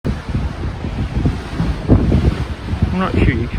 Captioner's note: sound of the sea